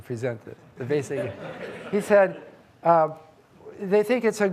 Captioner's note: audience laughing